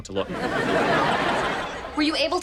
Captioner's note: audience laughs